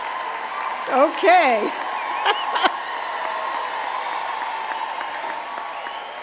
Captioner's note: giggles